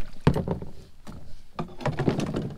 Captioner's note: clunk